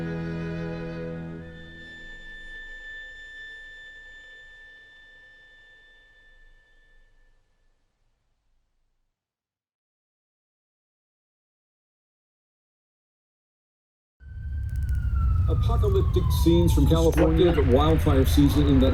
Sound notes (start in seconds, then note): 14.3 sirens blaring